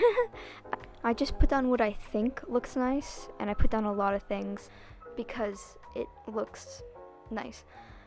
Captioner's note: laughs